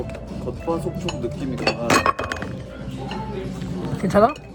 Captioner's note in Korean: 쿠당탕